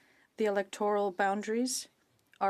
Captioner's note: speaking French